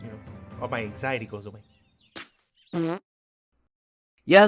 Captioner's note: fart noise